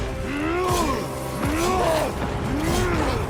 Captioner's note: grunting